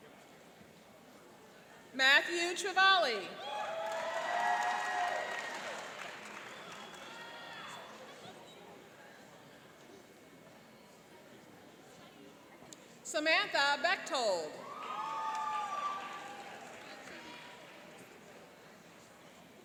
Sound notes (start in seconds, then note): 3.4 cheering and applauding; 14.6 cheering and applauding